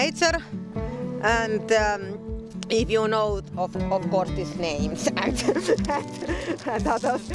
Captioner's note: laughing